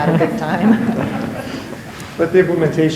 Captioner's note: chuckles